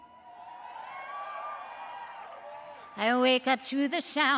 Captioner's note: audience cheers